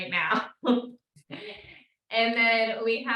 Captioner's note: host laughs